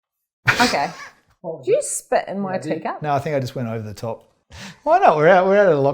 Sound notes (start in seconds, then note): 0.5 laughs